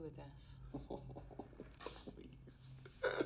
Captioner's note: snicker